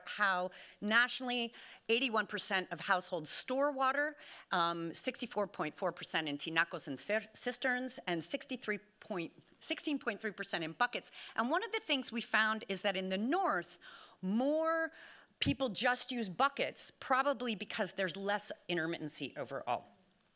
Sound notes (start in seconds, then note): 5.6 speaking Spanish